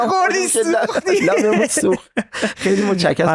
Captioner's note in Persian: خنده